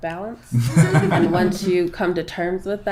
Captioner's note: everyone chuckles